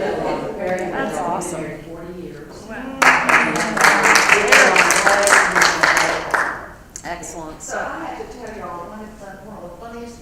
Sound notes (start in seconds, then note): 3.0 applause